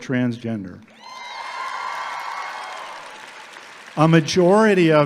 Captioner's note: audience clapping and cheering